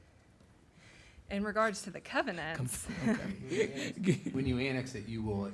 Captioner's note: laughs